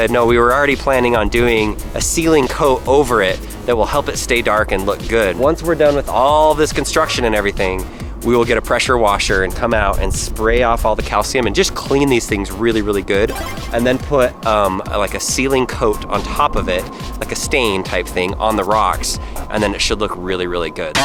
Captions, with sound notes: "No, we were already planning on doing a sealing coat "over it, that will help it stay dark and look good." Once we're done with all this construction and everything, we will get a pressure washer and come out and spray off all the calcium and just clean these things really good. (power up sound) And then put a sealing coat on top of it, like a stain type thing on the rocks, and then it should look really, really good.